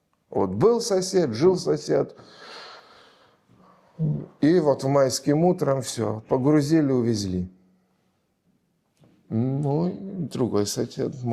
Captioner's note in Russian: тяжело вздыхает; вздыхает